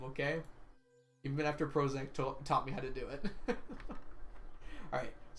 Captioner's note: laughs